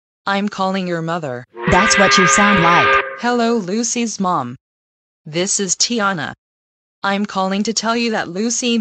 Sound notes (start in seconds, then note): 1.5 normal voice; 1.6 angry work whistle